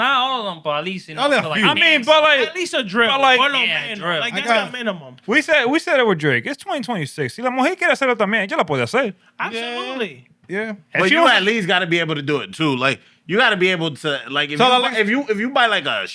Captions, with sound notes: Not all of them, but at least-- I mean, but like-- At least a drill. But like-- Yeah, a drill. Like that's a minimum. We said it with Drake. It's 2026. (Speaking Spanish) Absolutely. Yeah. But you at least got to be able to do it too. You got to be able to-- if you buy like a